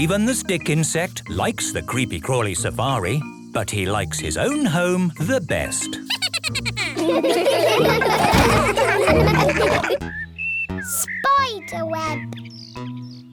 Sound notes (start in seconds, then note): 6.0 Steven giggles; 7.9 all laughing